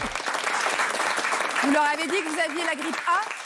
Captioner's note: applause